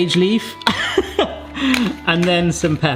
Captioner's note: laughing